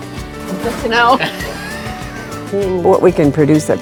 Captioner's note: kackles